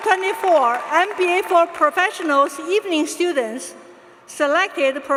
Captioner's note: applause